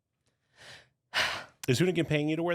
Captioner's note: exhales